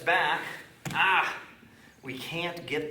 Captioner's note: moaning